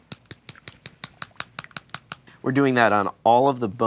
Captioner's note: paint bottle shaking sound